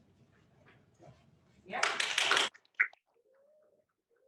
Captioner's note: applause